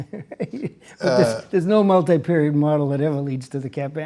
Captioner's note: chuckles